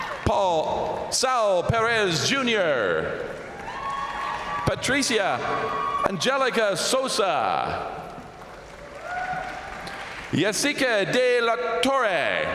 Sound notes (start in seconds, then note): 0.0 crowd applauding; 0.0 crowd cheering; 3.2 crowd applauding; 3.2 crowd cheering; 7.6 crowd applauding; 12.3 crowd applauding; 12.3 crowd cheering